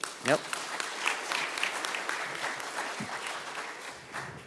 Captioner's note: audience applauding